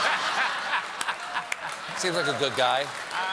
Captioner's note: laughter